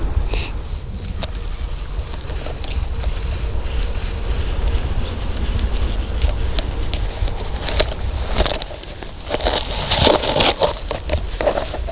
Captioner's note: sound of walking